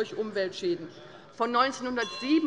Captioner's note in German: Anhaltende Unruhe - Glockenzeichen des Präsidenten